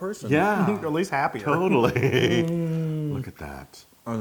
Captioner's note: laugh